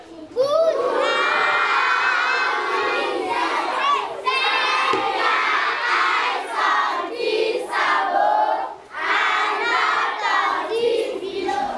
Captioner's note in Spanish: Niños respondiendo